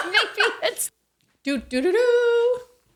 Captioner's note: laughing